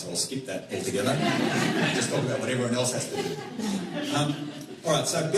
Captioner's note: laughter